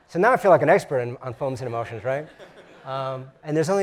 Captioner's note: laugh